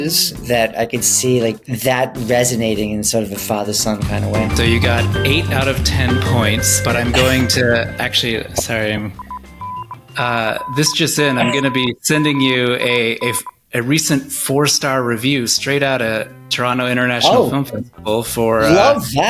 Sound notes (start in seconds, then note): 10.0 telegram noise